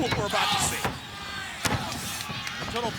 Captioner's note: blows thudding